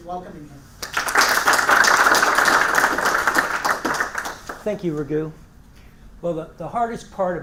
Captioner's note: applause